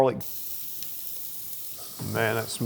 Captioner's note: oil sizzling